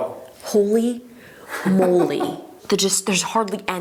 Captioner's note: chuckles